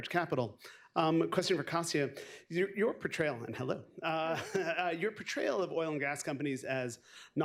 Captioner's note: laughs